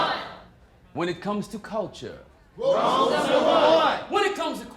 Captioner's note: crowd; crowd